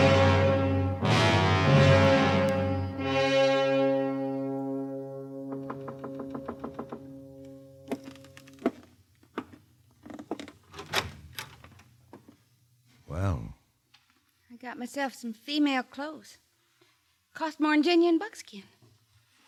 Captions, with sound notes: [knocking] Well? I got myself some female clothes. Cost more than genuine buckskin.